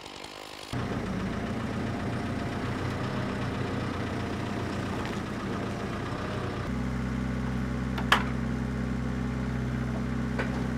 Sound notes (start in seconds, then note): 1.7 forklift engine roaring